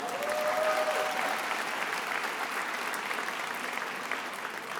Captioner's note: attendees applauding